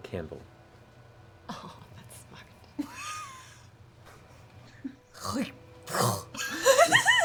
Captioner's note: hacking spit